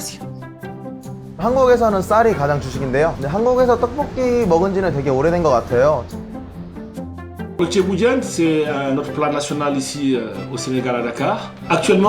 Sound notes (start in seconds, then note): 1.5 man speaking in foreign language; 7.7 man speaking in foreign language